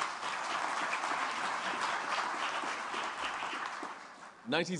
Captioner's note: applause